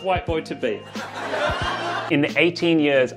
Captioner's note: audience laughs